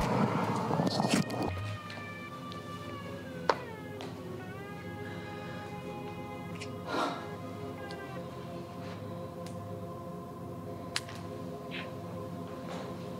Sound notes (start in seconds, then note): 0.3 suspenseful music; 5.0 Heather sighs